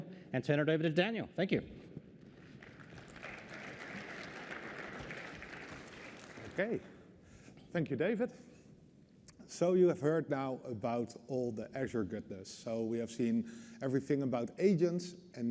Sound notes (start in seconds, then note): 2.3 applause